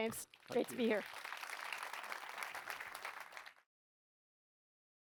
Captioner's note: applause